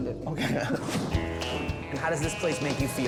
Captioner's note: laughs; logo whooshes